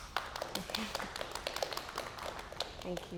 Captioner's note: applause